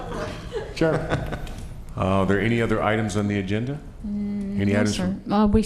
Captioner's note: laughter